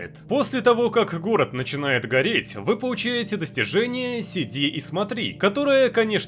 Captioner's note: in Russian